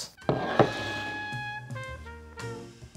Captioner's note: bowl sliding